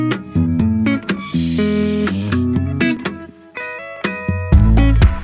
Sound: faucet creaks; upbeat music

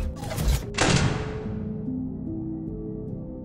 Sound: door Slam

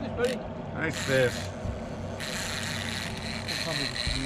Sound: reel cranking

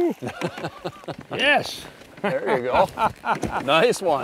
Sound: laughing

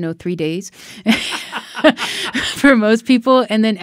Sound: laughing

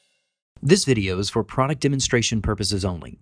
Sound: voiceover

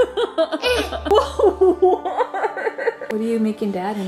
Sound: laughing

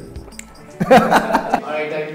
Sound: laughs

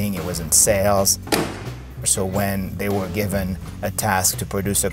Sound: car door slamming

